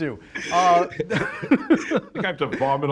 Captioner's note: laughs